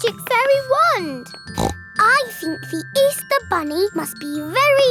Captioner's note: snorts